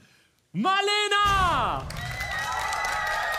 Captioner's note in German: Jubel